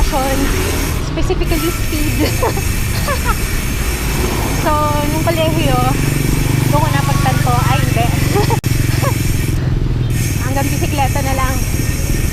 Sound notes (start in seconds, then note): 3.0 laughs; 8.4 laughs